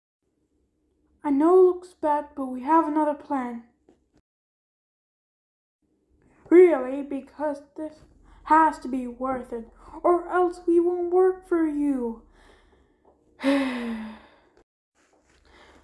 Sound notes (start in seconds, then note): 13.4 sighs